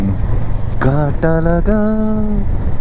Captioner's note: humming